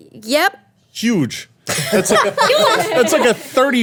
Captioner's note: everyone laughing